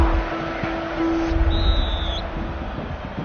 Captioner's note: whistle blows